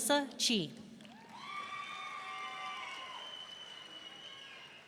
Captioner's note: audience cheering